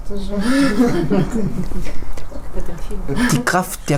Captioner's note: laughter